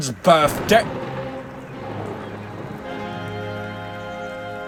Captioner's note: thunder roars